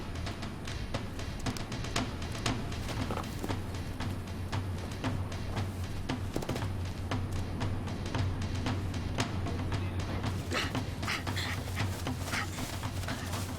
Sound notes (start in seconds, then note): 6.3 thud; 10.2 grunting